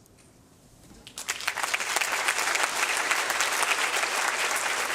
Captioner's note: applause